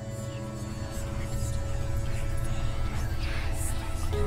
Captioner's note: eerie whispering